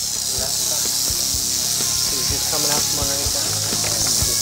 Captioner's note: snake rattling